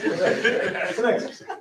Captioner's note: laughter